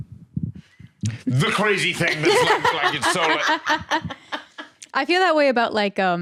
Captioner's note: laugh